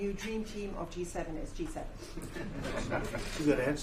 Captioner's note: laughter